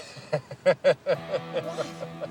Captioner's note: Jeff laughs